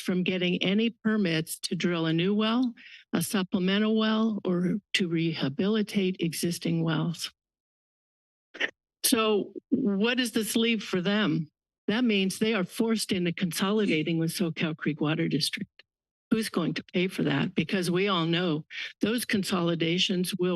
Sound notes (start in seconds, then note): 7.5 pause